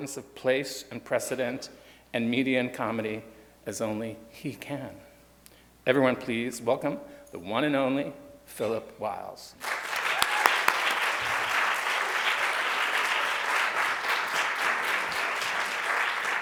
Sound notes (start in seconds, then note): 9.6 audience cheers and applauds